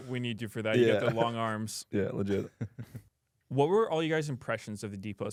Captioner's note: laughs